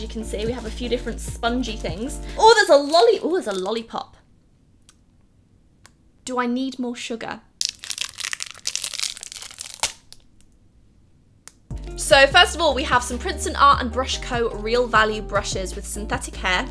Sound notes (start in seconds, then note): 7.6 loud wrapper noises